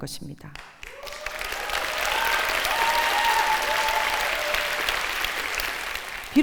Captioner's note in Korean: 박수와 환호